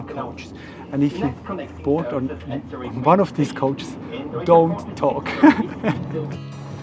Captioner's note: laughs